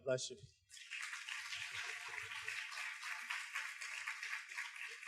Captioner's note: students claps